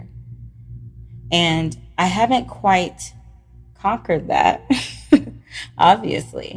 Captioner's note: laughs